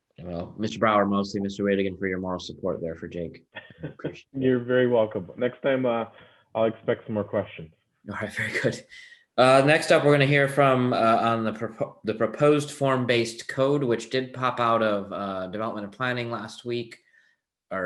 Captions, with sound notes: Well, Mister Brower, mostly Mister Widigan for your moral support there for Jake. (soft giggles) - You're very welcome. Next time, I'll expect some more questions. - All right, very good. The next step we're gonna hear on the proposed form-based code, which did pop out of developmental planning last week